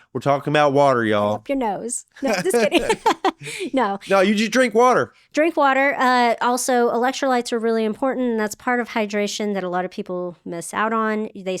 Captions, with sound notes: We're talking about water, y'all. No, just kidding. (both laughing) No. No, you just drink water. Drink water. Also, electrolytes are really important. That's part of hydration that a lot of people miss out on.